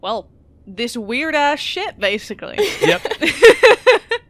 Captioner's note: laughter